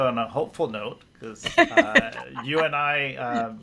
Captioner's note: laughs